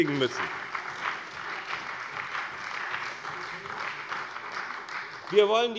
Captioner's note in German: Beifall bei dem BÜNDNIS 90/DIE GRÜNEN und der CDU